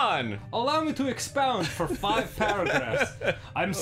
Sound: laughter

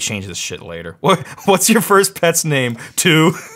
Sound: laughs

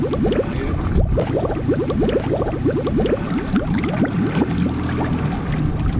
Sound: bubbling water

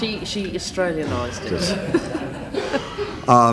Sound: laughter

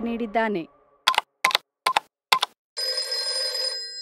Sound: typing sound; phone sound

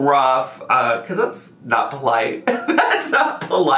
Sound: laughs

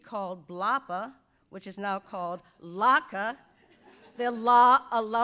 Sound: audience laughs

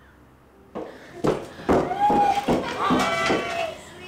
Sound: footsteps echoing

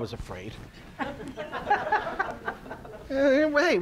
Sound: audience laughs

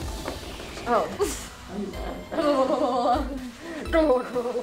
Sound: laughing

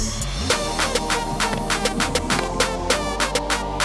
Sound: crack of the bat

